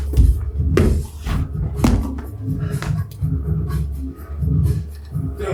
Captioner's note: thud